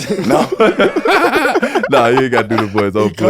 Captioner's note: all laughing